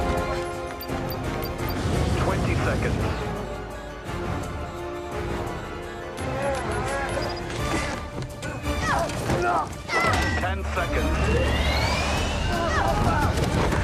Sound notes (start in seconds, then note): 6.7 beeping; 11.7 engine whines